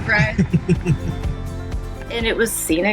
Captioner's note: laughs